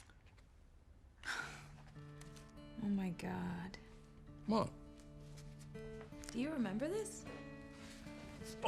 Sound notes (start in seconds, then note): 1.2 gentle music; 1.7 Kate chuckles